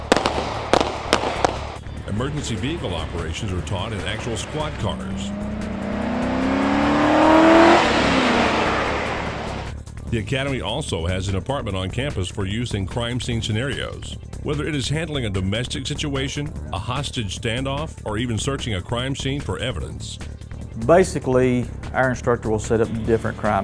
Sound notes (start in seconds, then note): 0.0 gun shots; 7.9 car accelerating